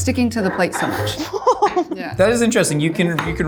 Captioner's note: laughs